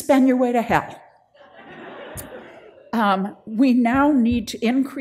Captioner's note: audience laughs